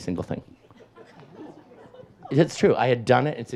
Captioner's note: audience laughs